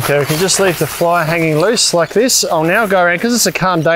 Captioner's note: tent fly crumpling